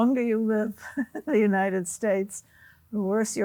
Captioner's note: chuckles